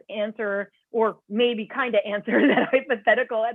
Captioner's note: laughter